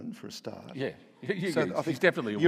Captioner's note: audience laughing